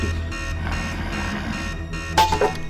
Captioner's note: Gordon growling; alarm blaring continues; ax clanks